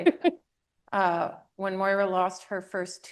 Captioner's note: laughs